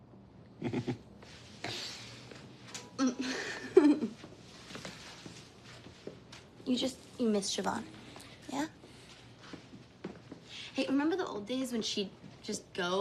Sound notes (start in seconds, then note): 0.6 chuckling; 3.0 laughing